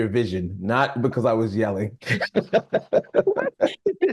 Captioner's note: laughing